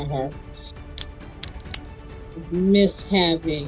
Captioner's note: pop top being opened